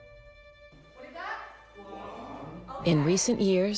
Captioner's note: speaking Chinese